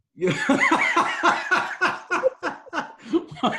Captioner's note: laughing